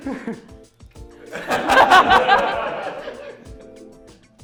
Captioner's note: louder laughter and light applause; laughter